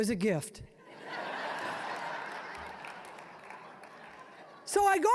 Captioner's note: audience laughing